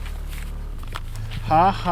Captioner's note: biting ice cubes